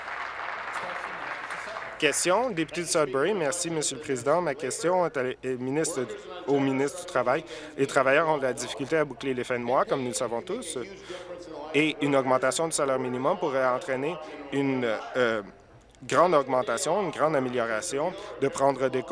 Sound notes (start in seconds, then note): 0.0 applause